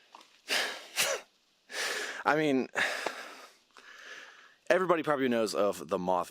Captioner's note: laughs